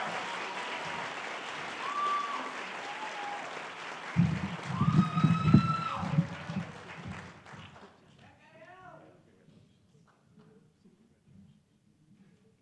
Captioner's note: cheering and applause